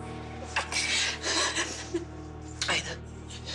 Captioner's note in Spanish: Sollozos